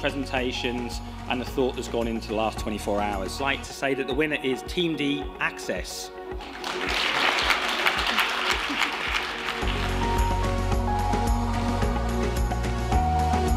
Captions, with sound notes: presentations and the thought that's gone into the last 24 hours. I'd like to say that the winner is team D, Access. [APPLAUSE]